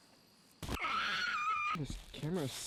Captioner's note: screaming